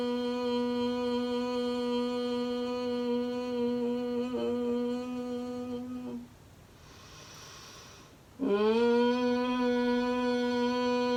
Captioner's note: exhale humming bee sound